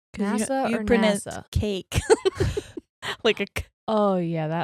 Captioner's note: both laughing